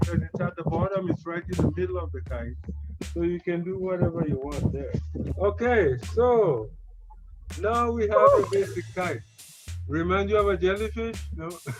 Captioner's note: laughter